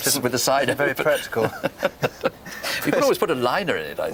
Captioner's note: both laugh